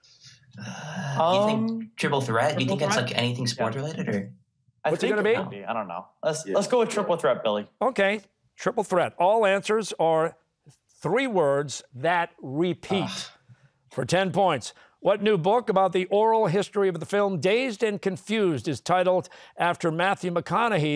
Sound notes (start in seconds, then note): 12.9 groans